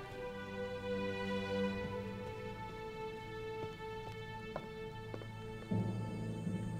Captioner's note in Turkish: Ayak sesi